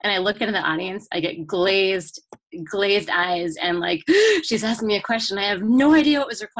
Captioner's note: gasp